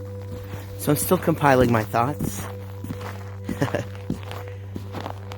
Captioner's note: laughs